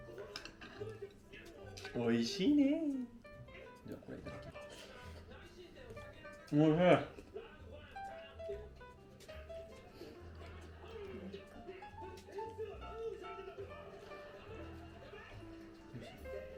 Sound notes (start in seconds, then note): 1.1 laughs; 9.9 laughs